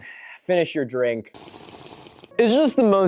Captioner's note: Minecraft slurp SFX